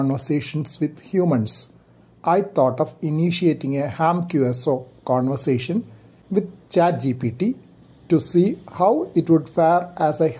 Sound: conversation

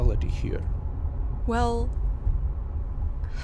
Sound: exhales

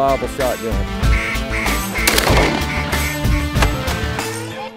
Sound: duck calls

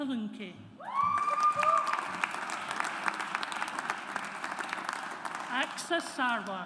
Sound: audience applauds

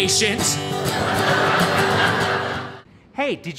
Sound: audience laughing

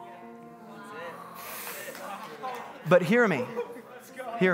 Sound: congregants clapping hands

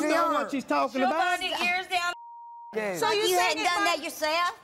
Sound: beep

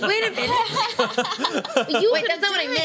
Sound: laughter

